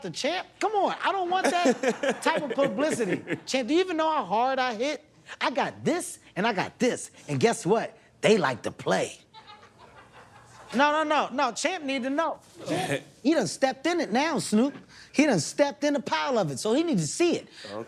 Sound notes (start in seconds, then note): 9.3 laughter